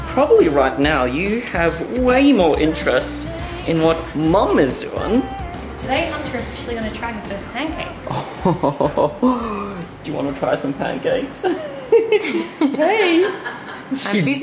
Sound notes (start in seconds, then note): 8.1 laughs; 11.3 all laughing